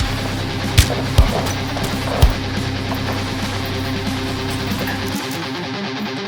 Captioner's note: Hard thumps and smacks from the constant hits to Jesse; metal chair echoes as it hits the mat